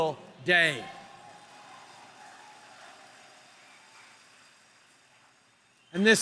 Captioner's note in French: Applaudissements